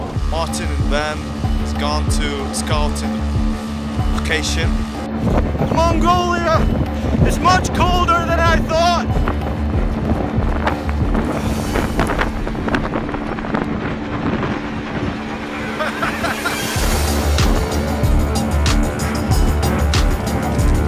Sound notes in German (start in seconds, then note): 10.2 Bewegende Musik; 15.6 Gelächter